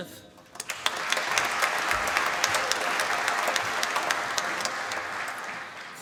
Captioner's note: applause